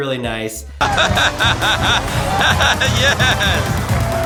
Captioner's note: laughing loudly